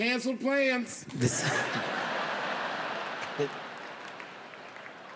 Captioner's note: audience laughs